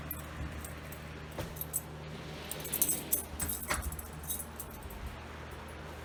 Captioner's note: door closes